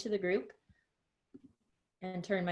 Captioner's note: silence